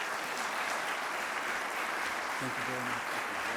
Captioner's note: audience applauds